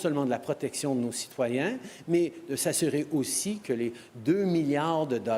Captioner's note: speaking french